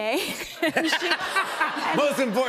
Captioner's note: laughter